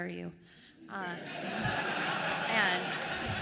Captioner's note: attendees laughing